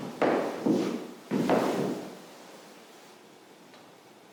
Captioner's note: shoes clunking